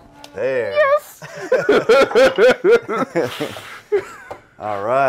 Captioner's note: laughter